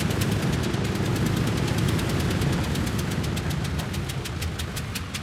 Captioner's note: engine running, propellers turning; engine slows down